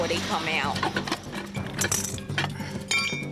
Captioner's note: clanks